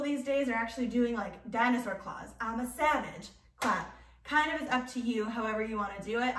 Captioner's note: clap